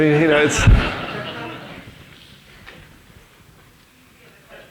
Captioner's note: audience laughing